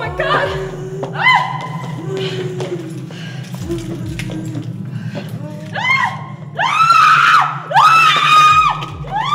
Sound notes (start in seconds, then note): 1.1 screaming